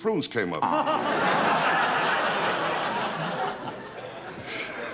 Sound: audience laughter

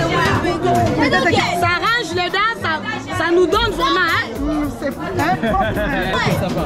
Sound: woman speaking foriegn language

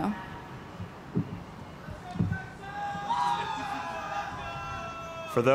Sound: cheers

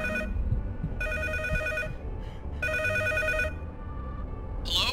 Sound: ringing telephone

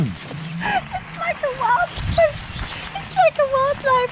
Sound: in high-pitched voice

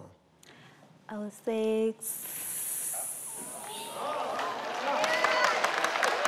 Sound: hissing; all clapping

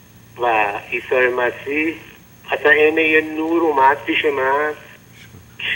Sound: speaking in foreign language

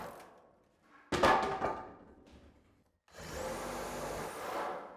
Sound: debris bangs; power tool buzzing

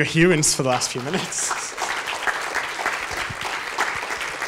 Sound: audience claps

